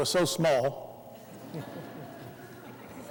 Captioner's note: laughter